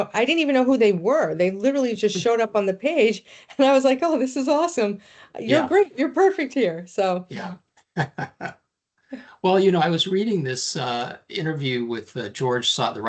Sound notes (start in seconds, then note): 2.8 chuckling; 8.0 laughing